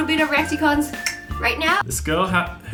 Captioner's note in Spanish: chasquido con la boca